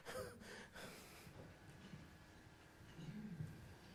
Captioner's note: laughs